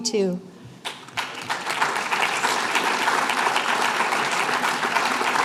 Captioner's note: applause